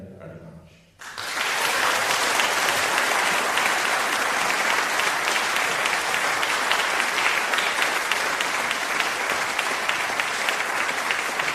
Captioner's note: applause